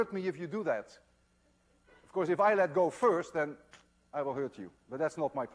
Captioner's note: pfft